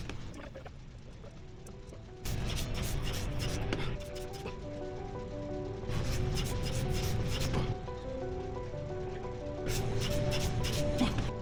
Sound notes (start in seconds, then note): 1.8 breathing